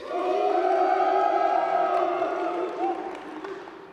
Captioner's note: cheers